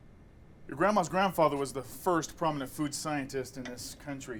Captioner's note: none